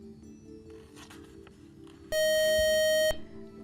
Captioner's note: buzzer